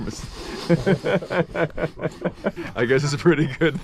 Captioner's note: laughing